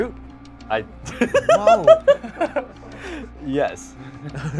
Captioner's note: laughs